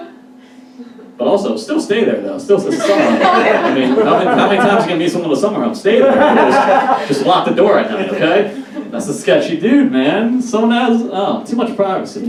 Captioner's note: audience Laughs